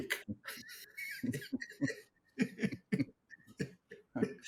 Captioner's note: laughs